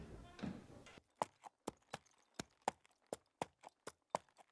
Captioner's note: hooves clop